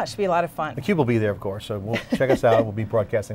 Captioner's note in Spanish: se ríe